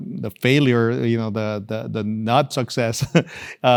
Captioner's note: laugh